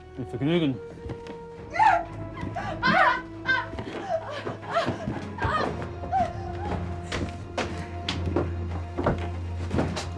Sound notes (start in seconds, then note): 2.6 screaming